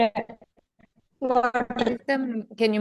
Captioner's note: distorted audio